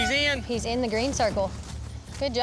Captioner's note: horn blows